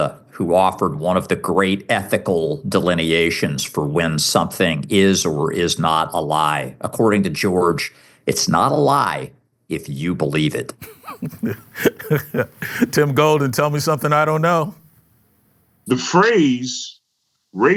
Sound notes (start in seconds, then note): 10.8 laughs